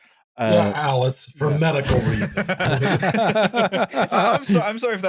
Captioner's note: laughter